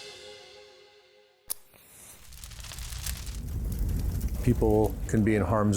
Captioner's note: fire clackling